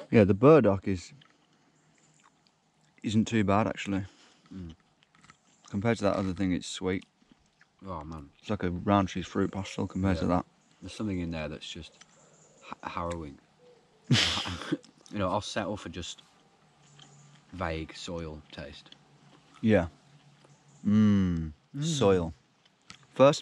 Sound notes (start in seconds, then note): 14.0 chuckling